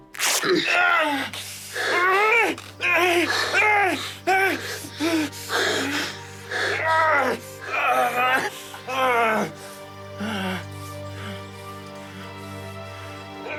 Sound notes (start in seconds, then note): 0.0 fabric rips, Ollie groans; 3.3 moaning and labored breathing